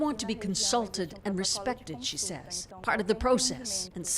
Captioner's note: speaking alternate language